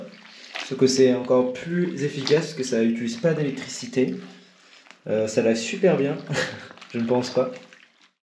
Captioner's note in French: rire ironique